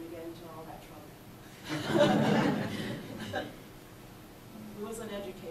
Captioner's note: audience laughs; laughs